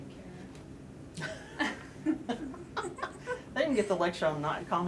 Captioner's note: laughter